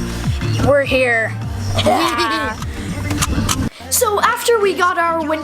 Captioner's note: both laughing